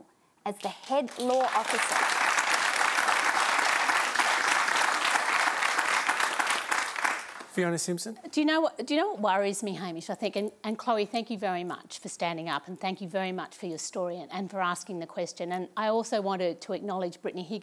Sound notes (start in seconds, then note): 10.4 applause